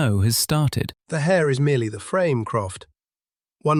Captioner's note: amused appreciation